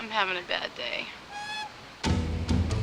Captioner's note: train horn tooting; suspenseful music